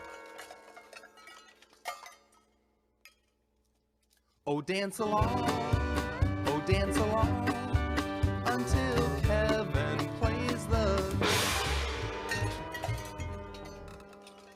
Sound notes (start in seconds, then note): 11.2 gong clashes